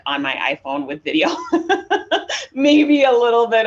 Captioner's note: laughs